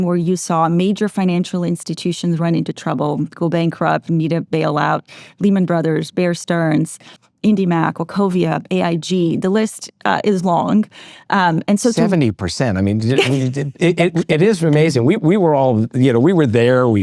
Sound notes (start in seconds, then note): 12.8 laughs